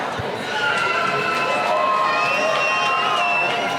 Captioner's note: cheering